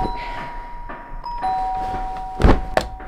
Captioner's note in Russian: звонок